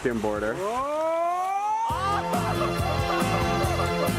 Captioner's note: water sloshing and splashing; upbeat music